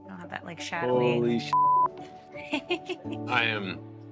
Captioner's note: beep